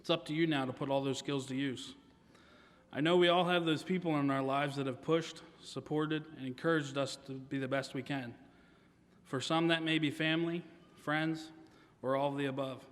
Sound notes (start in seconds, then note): none